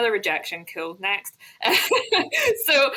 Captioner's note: laughs